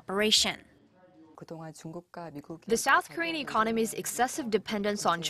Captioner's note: Korean